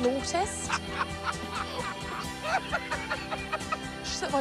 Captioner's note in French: Raïf en riant